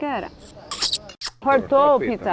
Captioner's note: sound: kissing